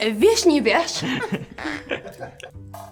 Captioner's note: man speaking in foreign language; woman speaking in foreign language; both laughing